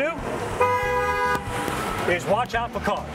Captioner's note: car honks